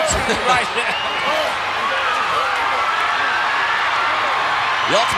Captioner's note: chuckling